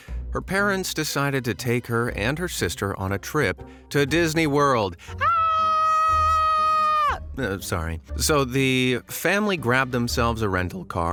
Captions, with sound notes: her parents decided to take her and her sister on a trip – to Disneyworld! [girly scream] Sorry. So, the family grabbed themselves a rental car